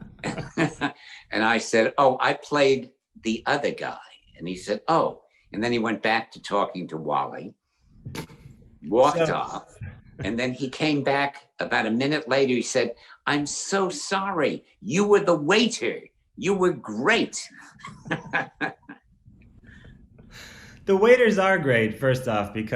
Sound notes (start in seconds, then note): 17.5 laughs